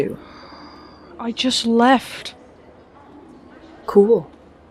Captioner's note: sighs